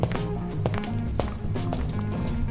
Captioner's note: footsteps and background music